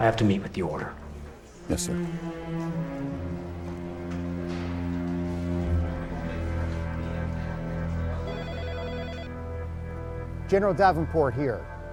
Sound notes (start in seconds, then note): 2.6 pensive music; 8.2 phone ringing